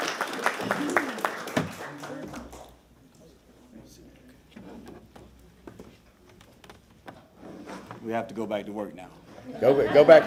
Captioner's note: applause